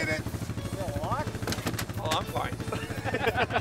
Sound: man speaks off mic

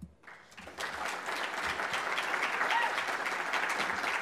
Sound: audience applauds

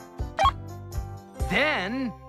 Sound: beep

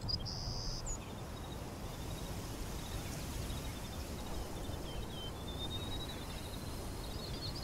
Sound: wind blowing

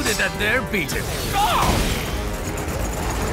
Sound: yells

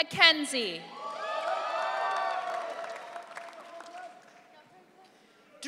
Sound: audience cheering

